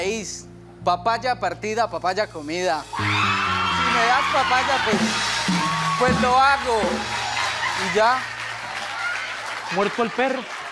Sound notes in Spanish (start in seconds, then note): 2.3 Público ovaciona